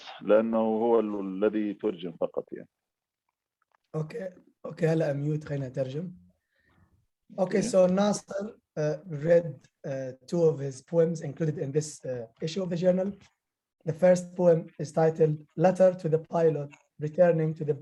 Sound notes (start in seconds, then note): 5.0 speaking arabic